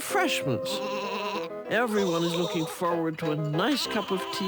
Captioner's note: sheep continue to bleat